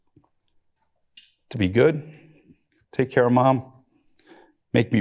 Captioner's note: voice breaking